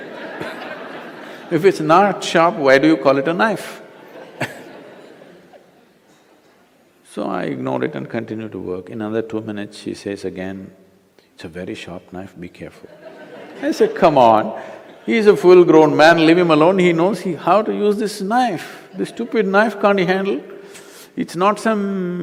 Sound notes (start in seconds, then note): 0.0 laughter; 3.9 laughter; 12.8 laughter